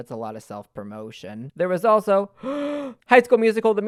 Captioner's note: deep breath